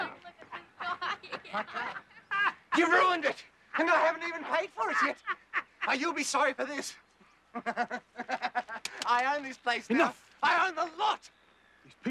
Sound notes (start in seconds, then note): 0.0 laughs; 7.4 chuckles